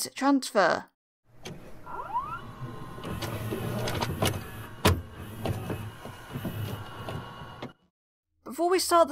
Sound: VHS noises

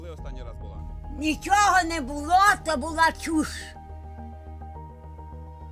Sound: speaking in foreign language

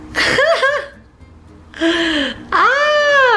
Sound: laughing

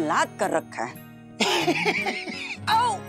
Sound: chuckling

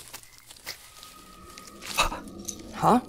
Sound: distant scream

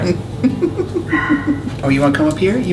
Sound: laughs

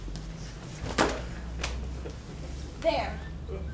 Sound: smacks

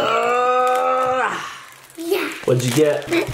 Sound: making difficult noises

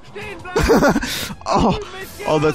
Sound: chuckles

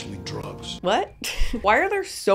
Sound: chuckles

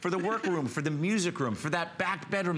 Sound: laughter

